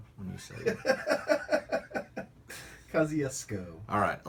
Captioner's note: laughter